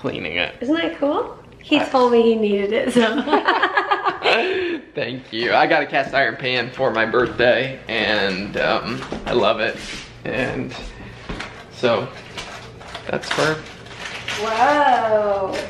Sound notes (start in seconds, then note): 3.0 both laughing